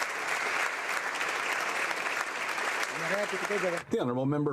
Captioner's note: speaking alternate language; some Applause